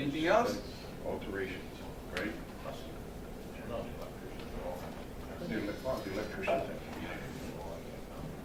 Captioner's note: chatter